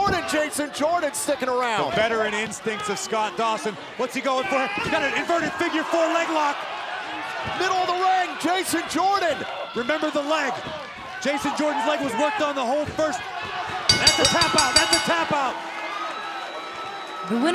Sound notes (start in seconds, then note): 13.9 bell ringing